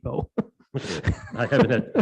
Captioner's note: laughs